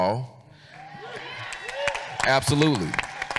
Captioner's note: audience cheers